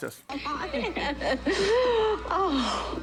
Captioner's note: laughs